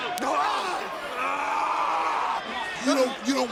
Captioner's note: Trick screaming